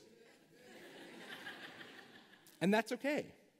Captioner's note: laughter